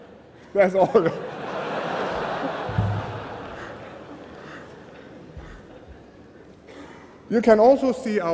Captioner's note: laughter